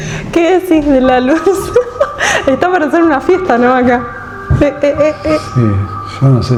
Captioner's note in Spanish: risas